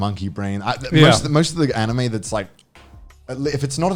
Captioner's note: laughing